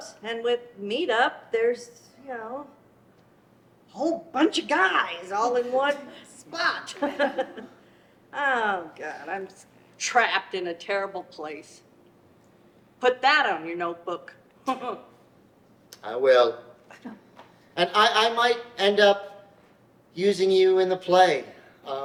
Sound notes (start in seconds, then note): 6.5 laughs; 16.9 laughs